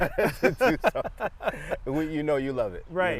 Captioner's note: both laugh